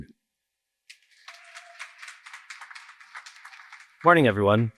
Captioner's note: applause